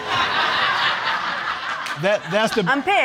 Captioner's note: audience laughing